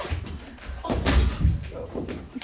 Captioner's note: thud